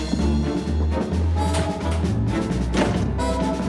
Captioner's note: none